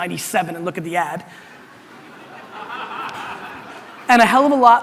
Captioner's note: audience laughter